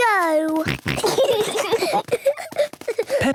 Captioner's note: snorting, giggling